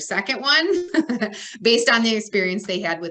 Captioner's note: laughs